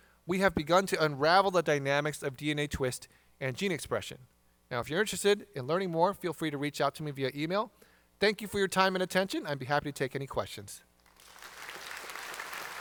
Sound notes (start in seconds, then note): 11.0 applause